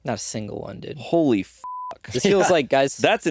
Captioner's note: beeping